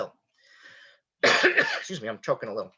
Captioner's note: coughs